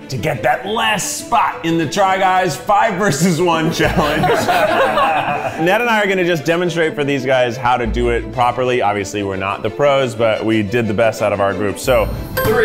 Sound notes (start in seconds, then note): 3.6 all laughing